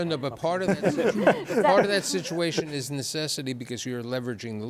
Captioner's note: laughter